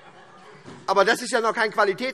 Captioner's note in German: Heiterkeit